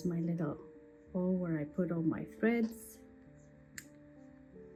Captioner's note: snips